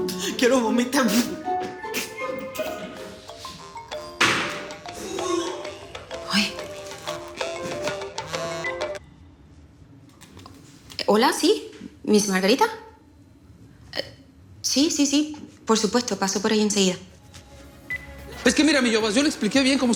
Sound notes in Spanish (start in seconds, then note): 4.6 Sonido al hacer arcadas; 6.6 Suena el celular